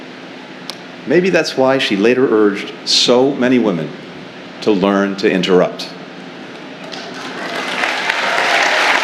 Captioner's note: applause